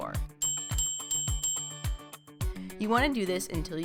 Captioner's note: bell ringing